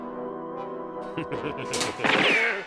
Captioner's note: chuckles